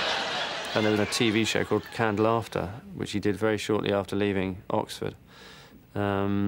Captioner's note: laughter